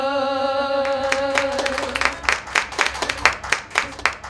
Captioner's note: applauding